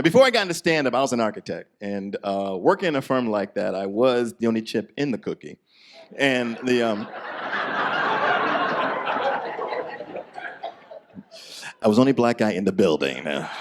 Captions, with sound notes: Before I got into standiup, I was an architect and working in a firm like that I was the only chip in the cookie and the um. (audience laughs) I was the only Black guy in the building.